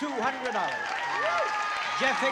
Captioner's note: applause